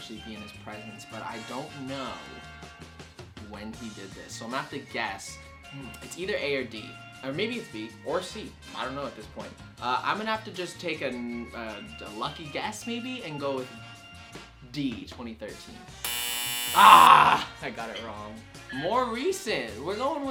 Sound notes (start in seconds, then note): 16.0 answer board buzzes; 16.7 groans